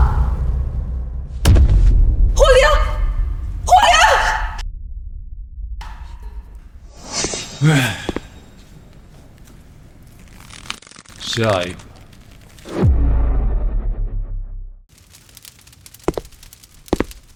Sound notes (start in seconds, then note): 7.3 sigh